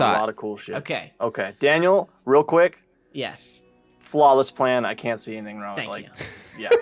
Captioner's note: laughs